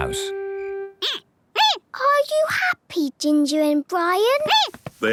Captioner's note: squeaking